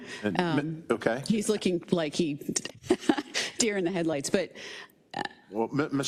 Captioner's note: laugh